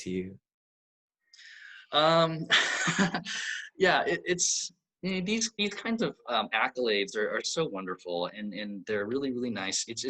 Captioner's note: laughs